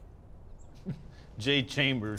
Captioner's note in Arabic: يضحك